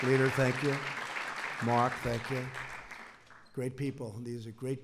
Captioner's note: applause